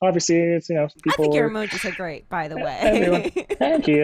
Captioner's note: laughs